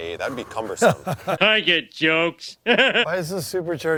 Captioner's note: laughs